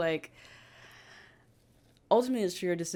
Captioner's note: sighs